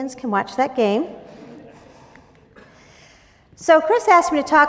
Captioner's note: laughing